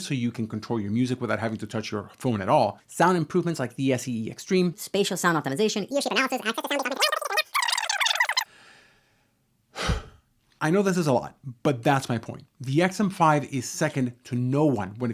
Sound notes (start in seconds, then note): 9.7 heavy sigh